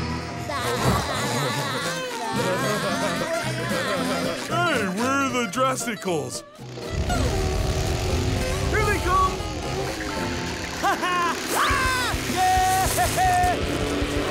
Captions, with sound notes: [laughing] Hey, we're in the Drasticals. [buzzing] Here they come! Ha ha! Ah! Yeah!